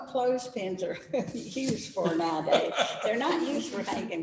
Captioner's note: laughter